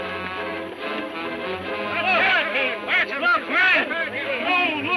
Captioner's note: men shouting